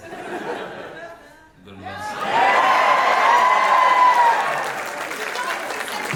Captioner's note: audience cheering